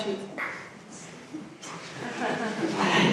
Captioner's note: audience laughs